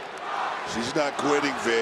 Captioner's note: crowd chants "roxy"